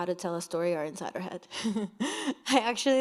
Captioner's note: chuckles